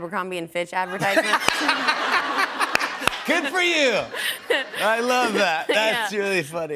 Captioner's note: laughter